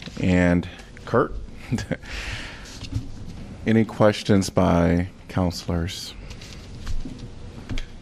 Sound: laughter

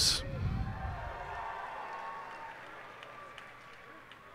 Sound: cheers and applause

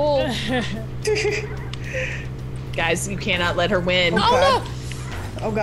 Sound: laugh

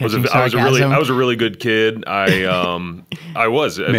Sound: chuckle

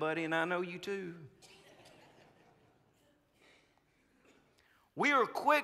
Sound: congregants laughing

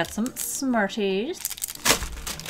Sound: rattle

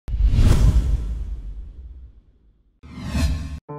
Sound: whooshing

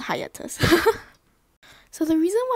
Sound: laughs

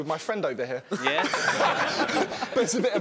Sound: laughing

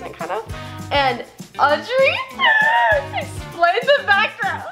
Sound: laughs

